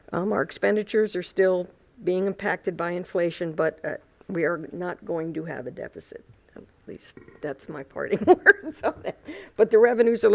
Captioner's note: laughter